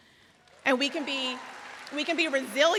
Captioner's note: audience applauds